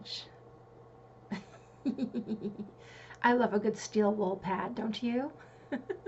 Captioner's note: giggle